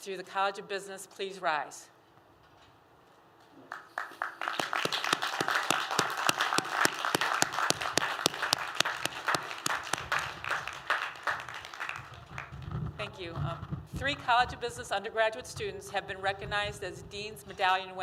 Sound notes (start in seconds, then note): 3.6 applause